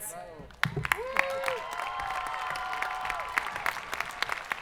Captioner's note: audience applauding